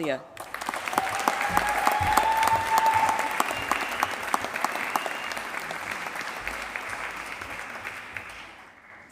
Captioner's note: applause